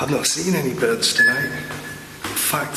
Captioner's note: machine beeps